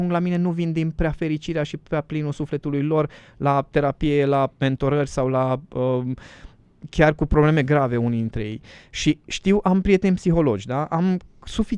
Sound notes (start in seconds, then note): none